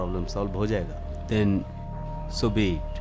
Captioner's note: none